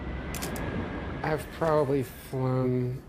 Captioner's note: camera shutters